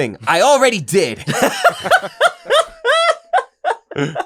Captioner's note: laughter